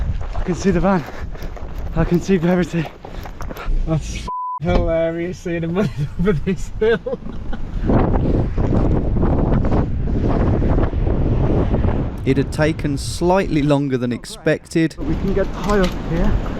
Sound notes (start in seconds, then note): 4.2 beep; 8.2 wind whirring